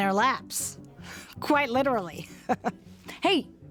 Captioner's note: laughs; laughs